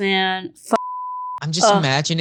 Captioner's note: beep